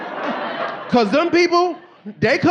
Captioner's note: audience laughing